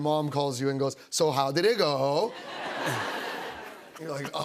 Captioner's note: laughter